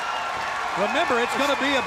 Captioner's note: crowd cheering